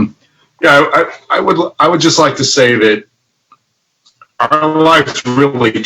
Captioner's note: speech distorted